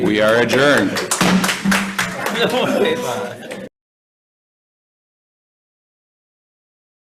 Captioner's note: committee members applaud; gavel pounds